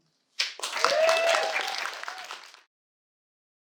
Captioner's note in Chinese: 掌聲